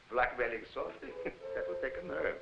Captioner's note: Jakob chuckling